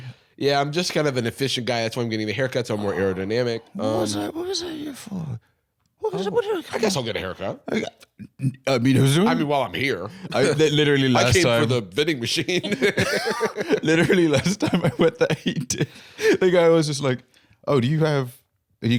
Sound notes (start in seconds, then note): 12.5 both laughing